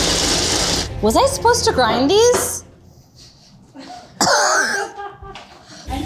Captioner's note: laughs